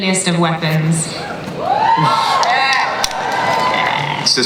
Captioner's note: audience cheers